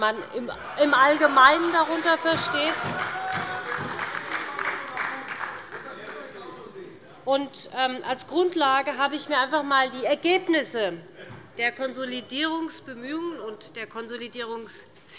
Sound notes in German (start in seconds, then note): 3.8 Heiterkeit und Beifall bei der SPD